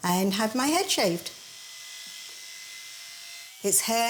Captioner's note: electric razor buzzing